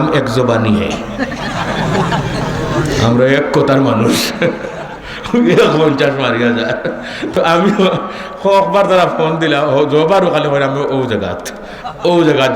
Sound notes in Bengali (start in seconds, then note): 6.4 সশব্দ হাসি